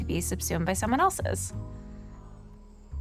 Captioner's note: breaths deeply